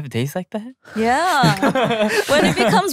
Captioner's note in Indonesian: tertawa